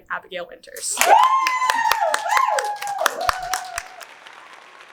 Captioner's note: audience cheers